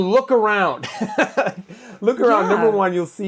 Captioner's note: laughs